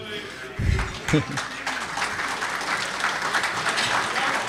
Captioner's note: applause